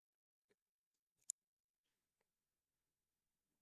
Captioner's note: silence